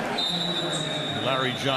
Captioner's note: whistle blowing